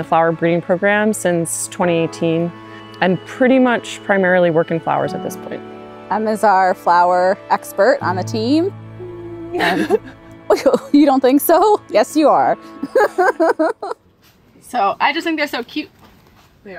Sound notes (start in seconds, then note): 9.0 chuckles; 13.4 laughs